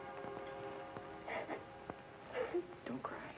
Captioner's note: Mary sobbing